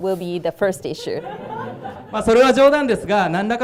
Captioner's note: audience laughing; speaking foreign language